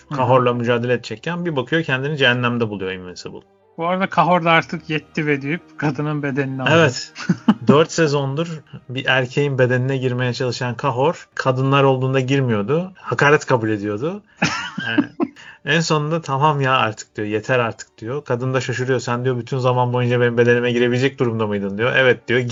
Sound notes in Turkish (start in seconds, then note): 14.4 kahkaha